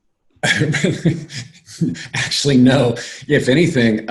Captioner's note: laughs